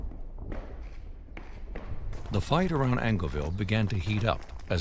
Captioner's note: gunshots firing